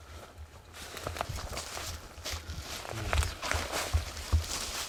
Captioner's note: leaves crunching